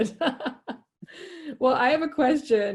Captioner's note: laughing